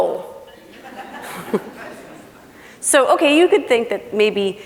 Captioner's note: laughing